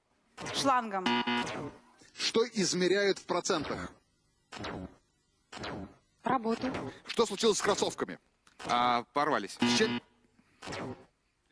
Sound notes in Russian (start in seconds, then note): 1.0 пи-пи; 9.6 пи-пи